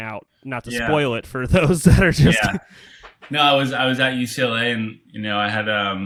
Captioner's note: laughs